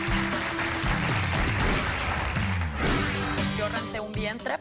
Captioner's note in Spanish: Aplausos